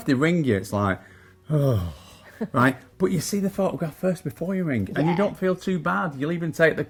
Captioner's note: sigh